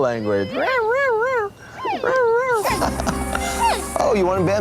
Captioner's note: imitates pandas squeaking; man imitates pandas squeaking; laughs